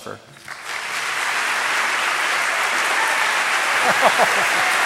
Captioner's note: audience applauding